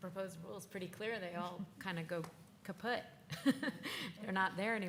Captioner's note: laughs